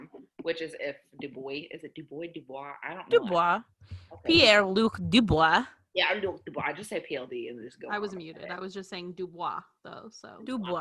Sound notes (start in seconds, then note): 3.6 bad French accent; 6.9 regular accent